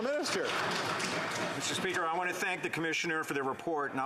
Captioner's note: applause